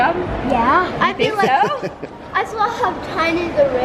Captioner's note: laughs